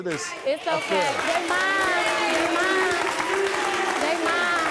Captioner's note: clapping and booing